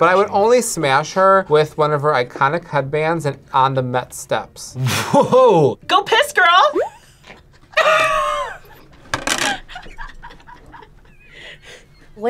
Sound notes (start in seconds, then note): 4.9 laughs; 7.8 group laughs